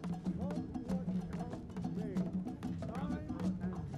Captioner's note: indistinct chatter